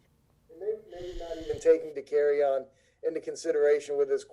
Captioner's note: speaking faintly off mic